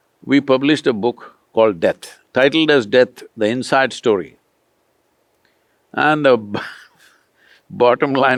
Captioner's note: laughs